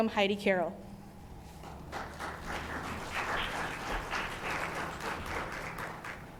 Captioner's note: applause